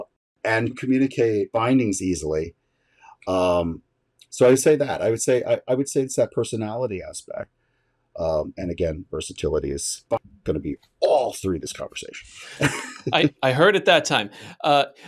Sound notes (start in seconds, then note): 12.2 laughs